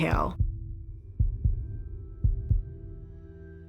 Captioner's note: heartbeat